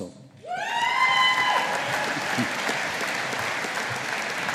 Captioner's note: audience applauding